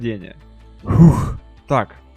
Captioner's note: phew